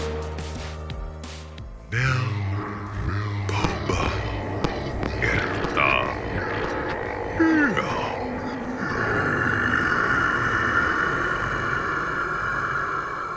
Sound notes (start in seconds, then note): 1.9 speaking new language